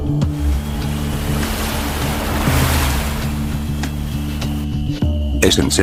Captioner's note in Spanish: Sonido del océano